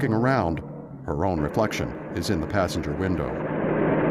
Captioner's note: engine humming